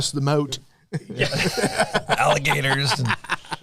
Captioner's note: laughter